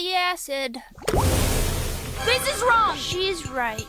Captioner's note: acid hissing